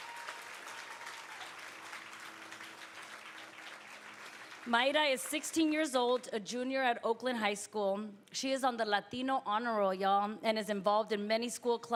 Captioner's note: applause